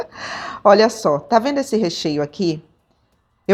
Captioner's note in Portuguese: risadas